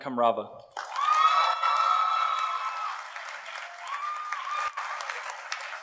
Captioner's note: audience cheers and applauds